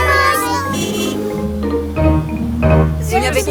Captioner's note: horn honking